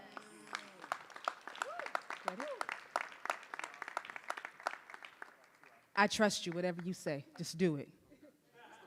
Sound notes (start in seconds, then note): 0.0 audience and applauding; 0.0 audience cheering